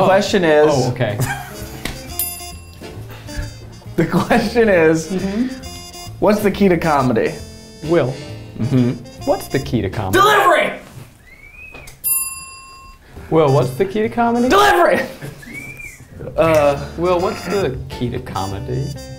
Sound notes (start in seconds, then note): 0.8 chuckles; 2.1 bell rings; 11.2 squeals; 12.0 bell rings